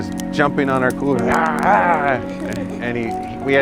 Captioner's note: mimics bear growling